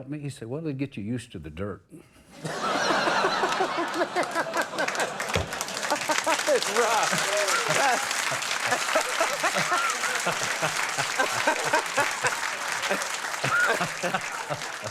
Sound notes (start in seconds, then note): 2.5 laughing; 6.0 audience cheering; 8.6 laughing